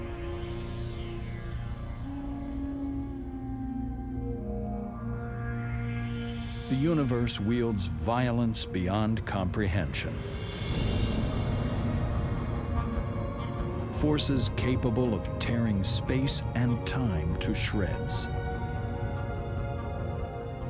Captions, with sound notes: The universe wields violence beyond comprehension, (explosion blasting) forces capable of tearing space and time to shreds. (soft music)